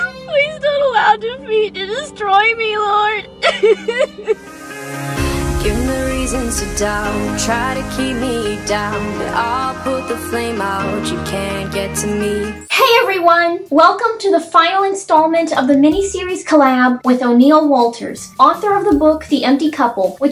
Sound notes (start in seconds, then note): 3.3 continues sobbing